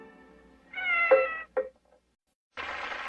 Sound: Mimsie mewing; audience clapping

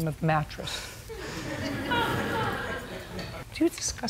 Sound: laughter

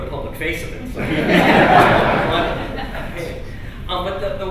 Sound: laughter

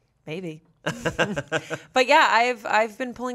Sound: laughs

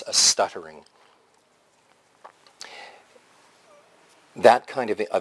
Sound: pause

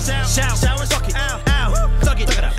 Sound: whoo!

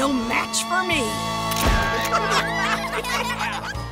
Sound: laughing

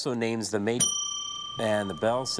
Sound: bell dings

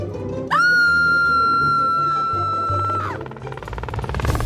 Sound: scream

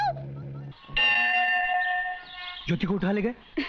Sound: temple bell rings

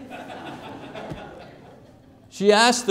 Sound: laughter

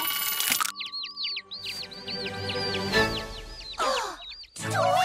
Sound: chirping

